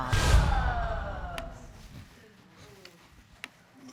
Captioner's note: audience exclaiming